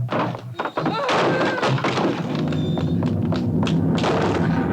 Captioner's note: chair clatters